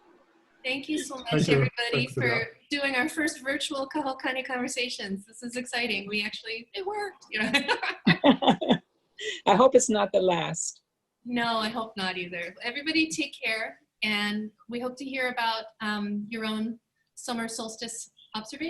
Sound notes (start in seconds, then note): 7.3 laughs